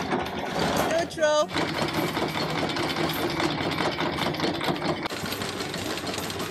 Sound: chain clanking; chain clanking

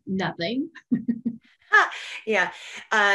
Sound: laughs

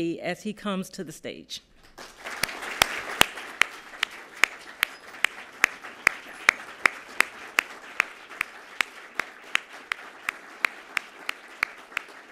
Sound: applause

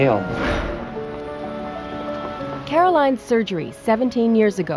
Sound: whoosh

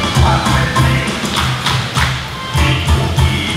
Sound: clapping

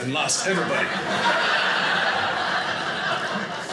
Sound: audience laughing

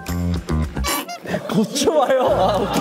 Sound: pfft

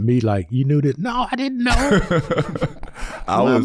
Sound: chuckling

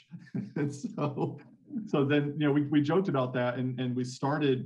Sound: laughing

